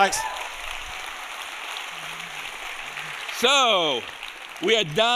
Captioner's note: audience applauding